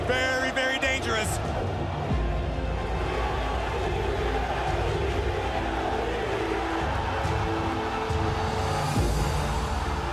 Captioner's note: crowd cheering